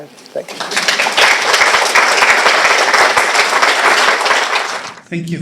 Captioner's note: applause